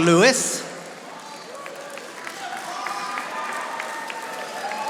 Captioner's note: audience applauding